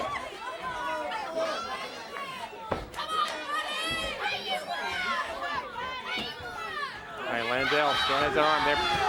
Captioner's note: crowd chatter